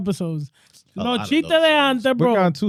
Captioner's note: speaking In Foreign Language